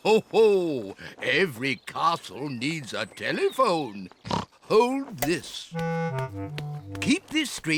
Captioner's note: chuckles; snorts